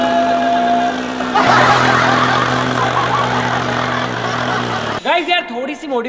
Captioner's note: laughing